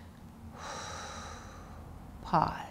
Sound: short exhalation

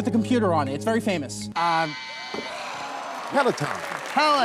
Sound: buzzer

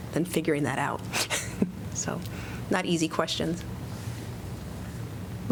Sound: laughter

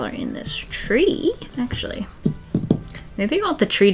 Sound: fingers tapping

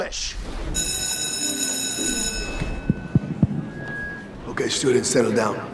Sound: school bell ringing

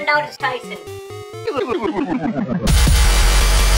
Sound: nerd pitch-shift stuttering

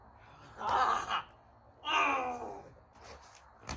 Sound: speaks in tiny anger

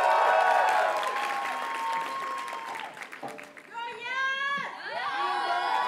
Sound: audience cheers and applauds; graduates chant

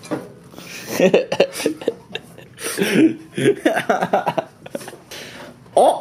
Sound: laughing

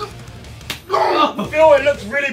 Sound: whipping

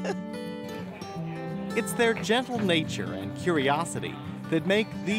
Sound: voiceover

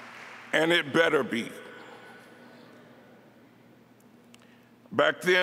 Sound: applause

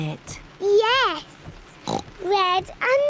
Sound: oinks

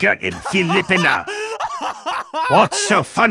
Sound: laughs in American English

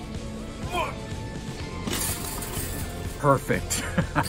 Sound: grunts; laughs

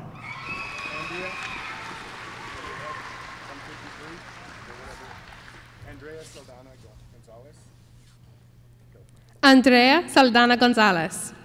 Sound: applause

